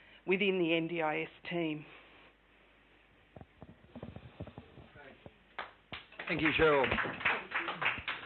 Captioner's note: clapping